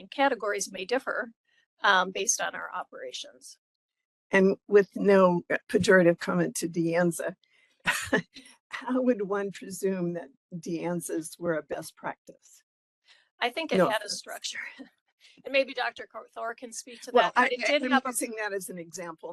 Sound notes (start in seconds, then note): 7.6 laugh